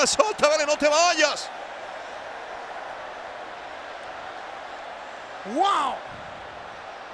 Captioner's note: applause